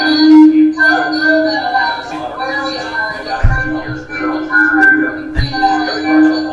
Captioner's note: speaker feedback and tapping